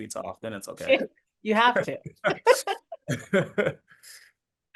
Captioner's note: laughing